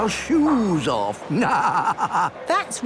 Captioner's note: laughing